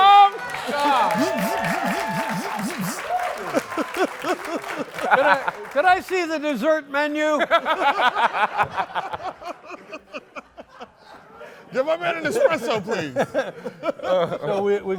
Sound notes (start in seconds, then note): 0.0 applause; 7.3 laughter